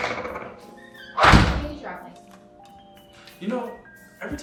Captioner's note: door creaks; door slams